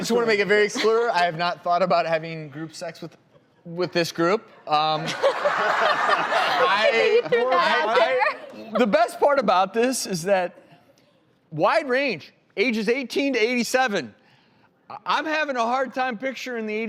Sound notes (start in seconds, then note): 5.0 laughs